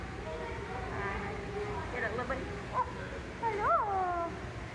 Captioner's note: higher pitch child like voice